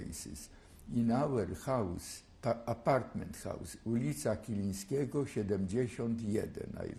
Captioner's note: non-english